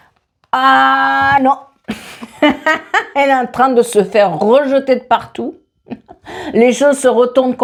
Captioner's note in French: rires